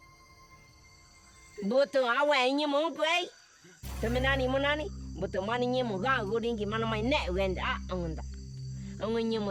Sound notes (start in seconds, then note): 1.6 speaking in foreign language